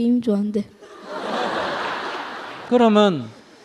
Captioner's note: audience Laughter